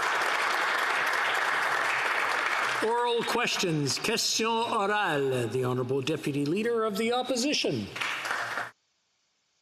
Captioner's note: applause